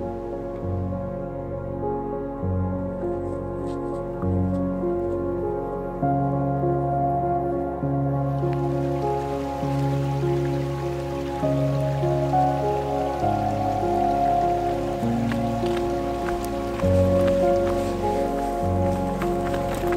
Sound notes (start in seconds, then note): 3.1 footsteps crunching; 9.0 creek burbling; 14.3 footsteps crunching